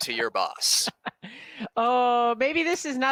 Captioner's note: laughs